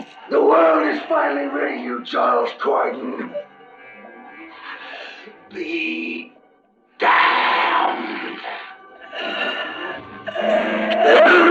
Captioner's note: clears throat